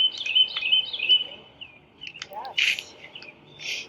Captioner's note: birds chirping